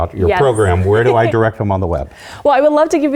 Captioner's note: laugh